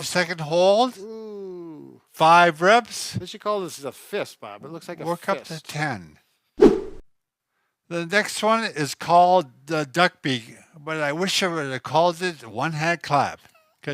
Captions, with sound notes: - Five-second hold. - Ooh. - Five reps. - This you call is a fist, Bob. It looks like a fist. - Work up to 10. (whip sound) - The next one is called the duck beak but I wish I would've called it one hand clap